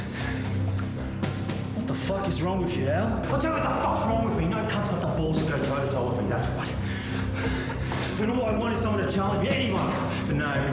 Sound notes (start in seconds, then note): 6.6 breathes in and out loudly